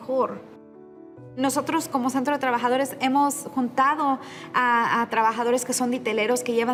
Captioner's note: continues speaking in Spanish